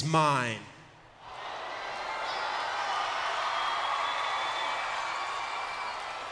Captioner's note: crowd cheers and whistles